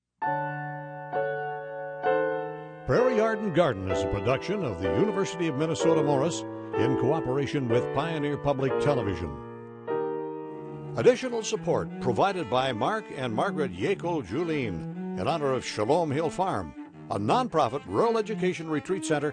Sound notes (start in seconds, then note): 0.2 gentle music; 3.0 voiceover